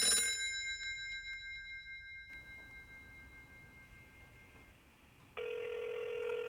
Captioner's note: phone rings